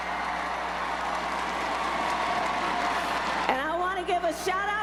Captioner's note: crowd cheers